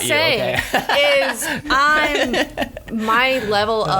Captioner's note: laughs